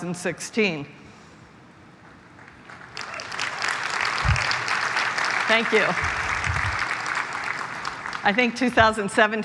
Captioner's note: applause